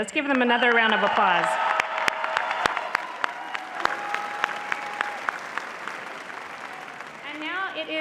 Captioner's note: applause